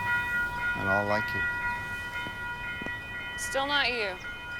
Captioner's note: crossing bell rings